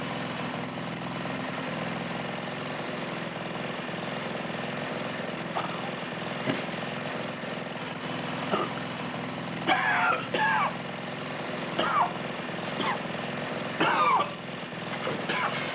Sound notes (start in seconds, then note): 9.3 wheezing